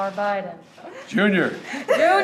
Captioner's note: laughter